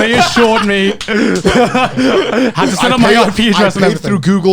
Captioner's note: hosts laughing